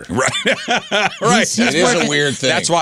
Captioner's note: laughing